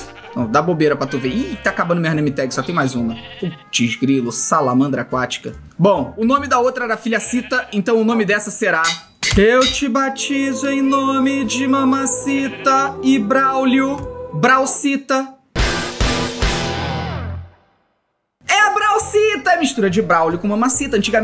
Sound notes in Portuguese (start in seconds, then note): 9.4 som angelical; 15.5 som de destaque